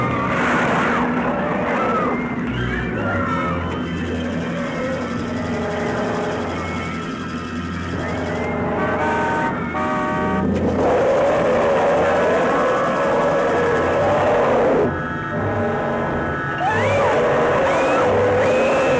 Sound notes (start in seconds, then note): 8.1 car horn honking; 10.7 roaring; 16.6 screaming